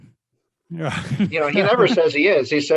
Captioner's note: laugh